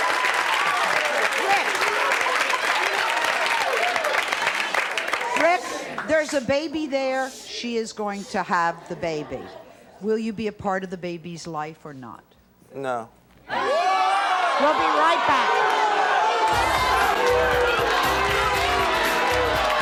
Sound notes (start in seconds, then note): 13.4 audience jeering; 16.5 upbeat music